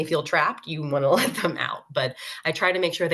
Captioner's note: laughs